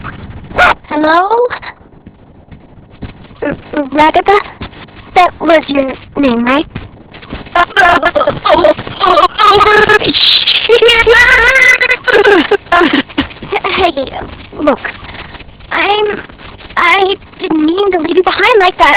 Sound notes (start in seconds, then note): 0.0 shrieks; 7.4 voice glitching, stuttering continuously